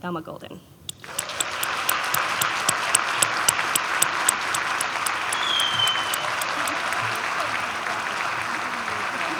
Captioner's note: applause